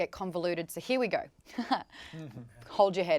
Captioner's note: chuckles